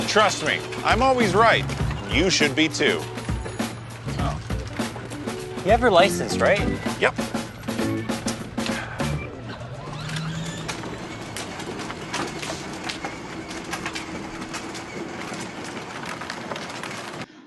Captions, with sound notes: Trust me, I'm always right, you should be too. - Oh. You have a license, right? - Yup. (upbeat music) (scooter engine roaring)